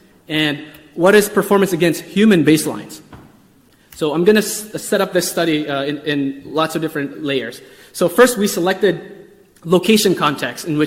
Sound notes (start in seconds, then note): none